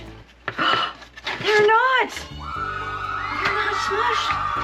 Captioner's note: background cheering